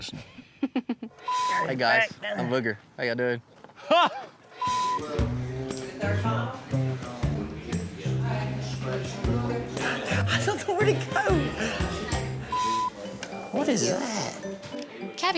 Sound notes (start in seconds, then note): 0.4 chuckles; 5.5 footsteps